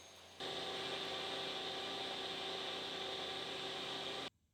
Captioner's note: drill whirring